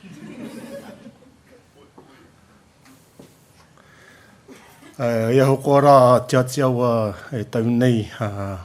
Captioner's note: laughter